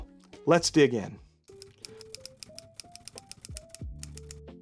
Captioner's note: typing